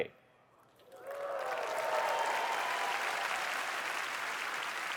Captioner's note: applause